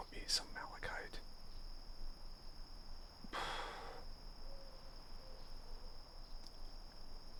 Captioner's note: sighs